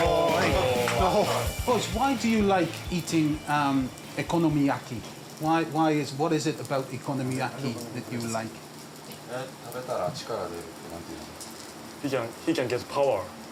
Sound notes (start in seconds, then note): 10.3 speaks Japanese